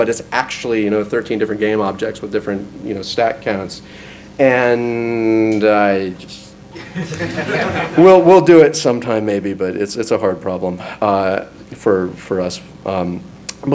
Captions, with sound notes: but it's actually, you know, 13 different game objects with different, you know, stack counts. And I... (audience laughs) We'll do it sometime, maybe, but it's a hard problem for us.